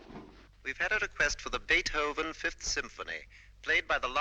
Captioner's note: radio broadcast